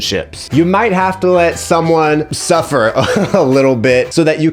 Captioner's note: laughs